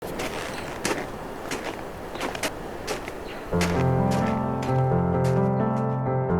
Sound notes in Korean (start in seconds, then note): 0.0 눈 밟는 발소리, 바람소리, 지저귀는 새소리; 3.4 잔잔한 음악